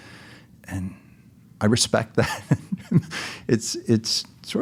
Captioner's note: laughs